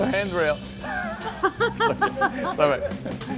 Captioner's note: laughs